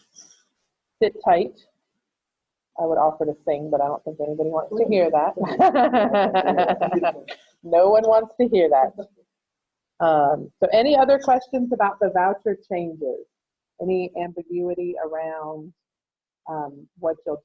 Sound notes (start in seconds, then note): 5.4 laughter; 5.7 grumbling in background